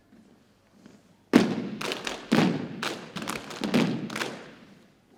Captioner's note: rhythmic thumping and clapping